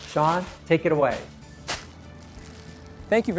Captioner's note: pompom crunches